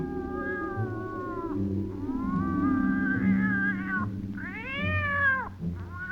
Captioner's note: cat screeches